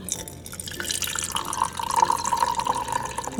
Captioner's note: water pouring